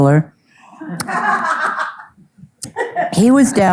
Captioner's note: audience laughing